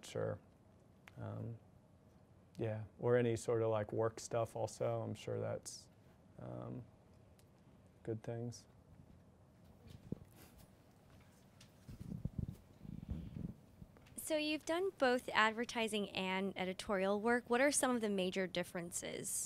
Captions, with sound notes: Or any sort of like work stuff also. I'm sure that's good things. - [Voiceover] So you've done both advertising and editorial work. What are some of the major differences?